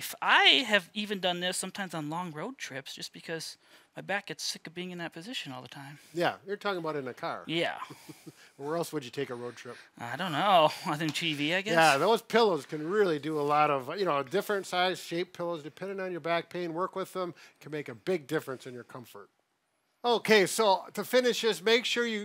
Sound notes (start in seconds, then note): 7.8 chuckles